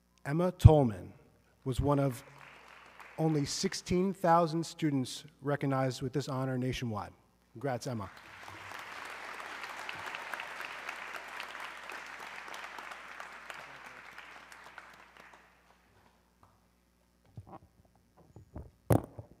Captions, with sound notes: Emma Tollman was one of only 16,000 students recognized with this honor nationwide. Congrats Emma. (audience clapping)